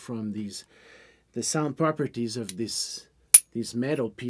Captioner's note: metal clanks